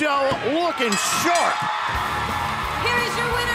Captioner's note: bell ringing